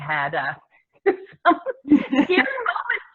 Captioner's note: laughter